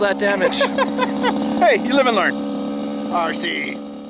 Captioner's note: laughs